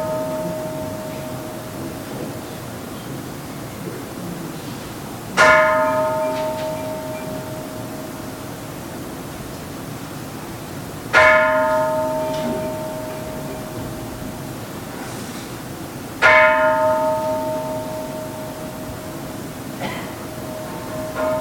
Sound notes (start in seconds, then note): 0.2 Kansho ringing; 5.4 Kansho ringing; 11.2 Kansho ringing